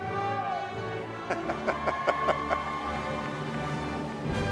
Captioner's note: laughter